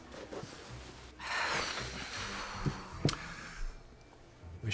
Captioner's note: sighs heavily